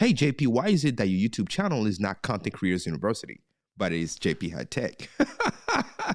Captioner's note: laughter